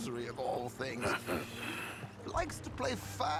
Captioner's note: laugh